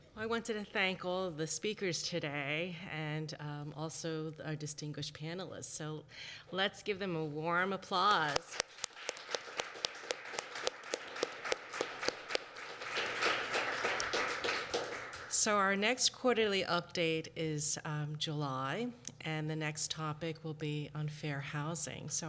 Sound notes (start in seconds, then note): 11.6 applause